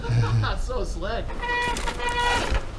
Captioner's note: laughing; bicycle brakes squealing